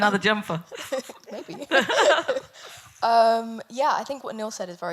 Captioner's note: laughs